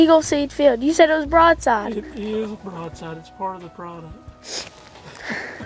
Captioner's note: laughter